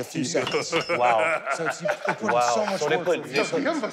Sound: laughs

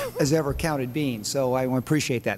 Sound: laughter

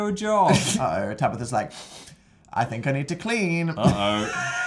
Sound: sniffs

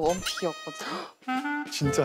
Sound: gasps

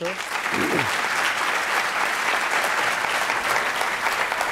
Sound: audience clapping

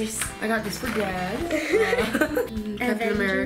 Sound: laughing

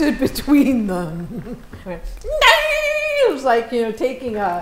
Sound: high pitched sound

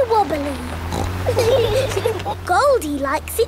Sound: laughing

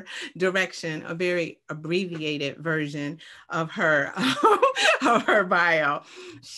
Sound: laughs

